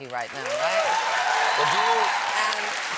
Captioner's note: applause